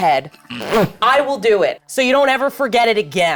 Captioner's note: chuckles